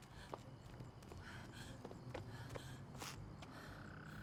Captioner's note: person breathing